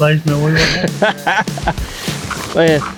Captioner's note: laughs